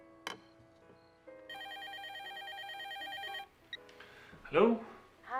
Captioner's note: telephone ringing